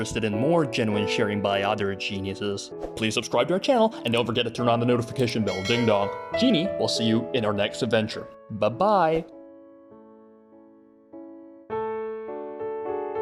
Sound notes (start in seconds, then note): 5.4 ding dong